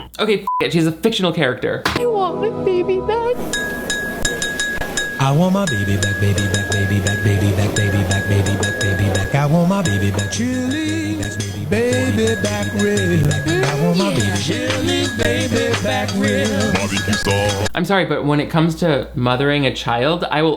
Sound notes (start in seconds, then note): 0.5 beep; 3.6 ketchup bottle tinkling